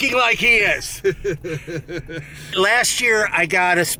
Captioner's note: laughing